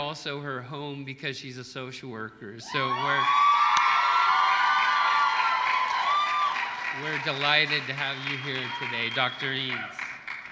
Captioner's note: applause